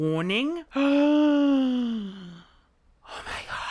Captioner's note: gasps